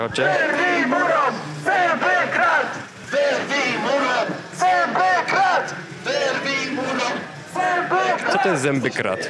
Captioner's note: chanting